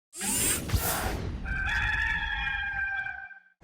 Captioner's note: roster crowing